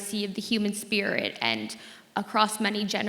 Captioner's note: none